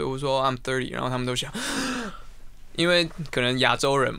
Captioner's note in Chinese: 吸氣